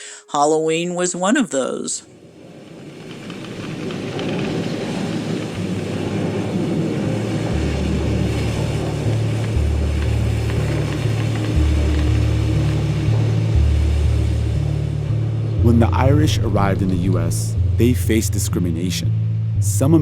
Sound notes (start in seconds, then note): 3.8 soundbite of wind blowing